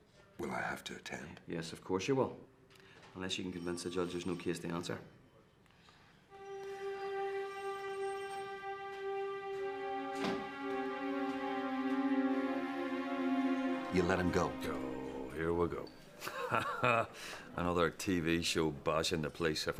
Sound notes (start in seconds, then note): 7.6 gentle music; 16.2 chuckles